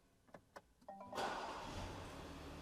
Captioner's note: starts car